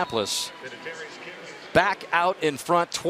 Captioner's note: pa announcement